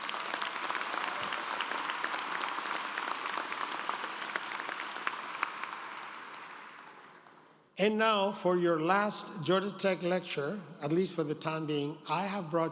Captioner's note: applause